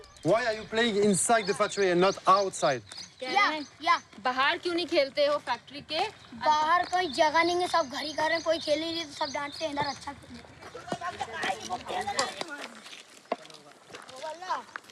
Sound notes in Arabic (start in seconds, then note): 4.9 الصوت الهندي المنطوق